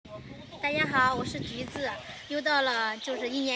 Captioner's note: Mandarin